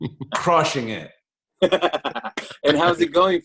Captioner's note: laughs